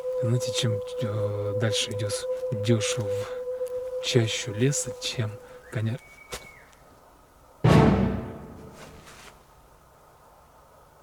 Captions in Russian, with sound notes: чем дальше проходишь, тем страшнее , это конечно мое воображение , но .. ( свист ) -кто издает этот звук ?